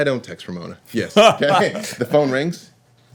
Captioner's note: laughter